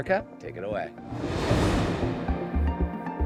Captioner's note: light upbeat music; graphics whooshing